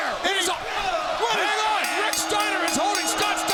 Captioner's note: bell dings